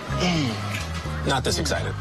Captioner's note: grunting